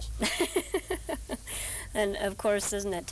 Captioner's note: laughing